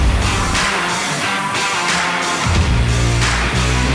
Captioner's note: steaks sizzling